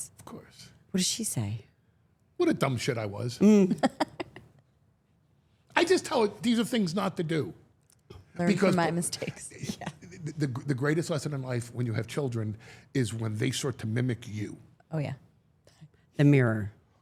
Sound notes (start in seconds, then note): 3.4 laughing